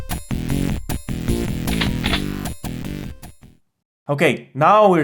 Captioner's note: shotgun load